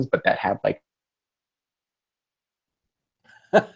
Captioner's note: silence